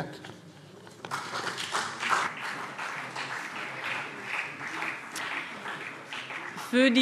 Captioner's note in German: Beifall CDU und BÜNDNIS 90/DIE GRÜNEN